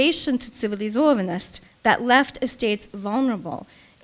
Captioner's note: speaking russian